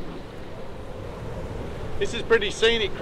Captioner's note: wind gusting